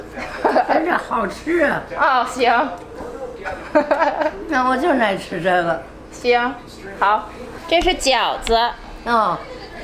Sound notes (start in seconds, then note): 0.2 laughs; 1.0 grandma speaking Chinese; 2.1 speaking Chinese; 3.7 laughs; 4.6 grandma speaking Chinese; 6.3 speaking Chinese